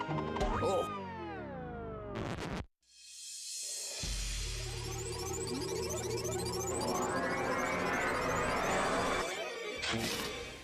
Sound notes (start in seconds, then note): 1.4 music stopping; 4.4 electronic buzzing